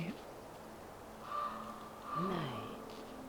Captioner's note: A bird caws